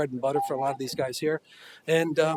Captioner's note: buzzer